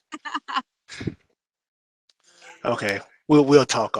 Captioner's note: laughter